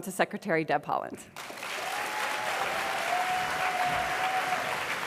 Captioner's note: applause